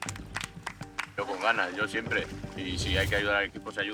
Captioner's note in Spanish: aplausos